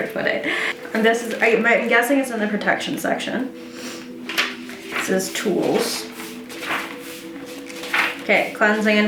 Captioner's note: pages flip